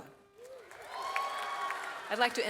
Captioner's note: audience cheers